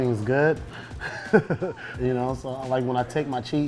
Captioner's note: laughs